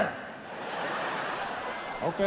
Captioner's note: audience laughs